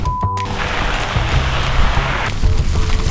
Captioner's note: pouring rain